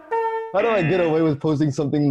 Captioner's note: buzzer